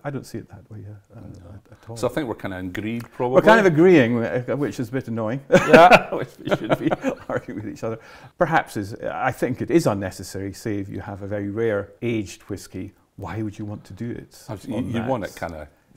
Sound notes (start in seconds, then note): 5.5 laughs